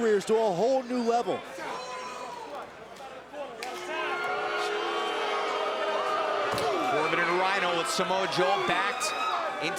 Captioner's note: crowd chatter